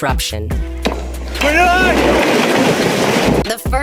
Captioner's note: shouting